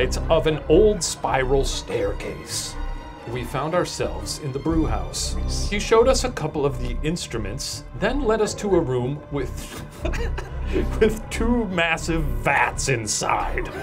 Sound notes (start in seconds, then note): 1.8 ominous music continues; 9.5 laughs